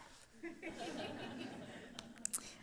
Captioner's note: laughter